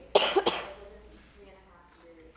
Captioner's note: coughing